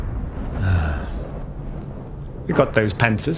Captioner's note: sighing